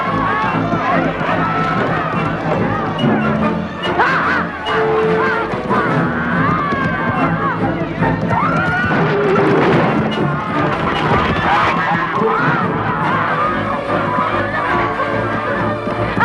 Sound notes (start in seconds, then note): 0.0 screaming; 4.0 Hundra shouting; 10.2 wings fluttering; 11.2 geese squawking; 14.7 horse neighing